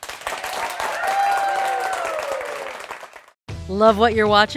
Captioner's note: audience cheering